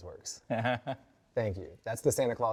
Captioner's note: laughs